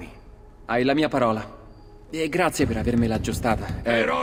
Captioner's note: someone knocks at the door